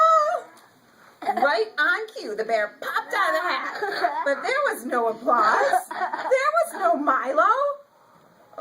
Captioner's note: children start laughing